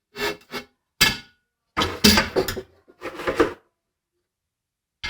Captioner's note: metal clanking